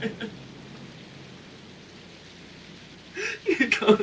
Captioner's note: Casey crying